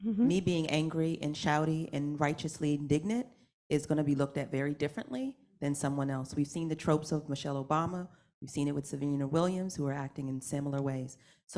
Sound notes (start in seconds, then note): none